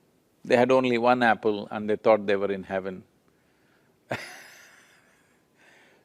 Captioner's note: laughs